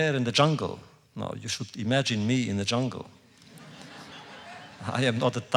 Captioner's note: laughter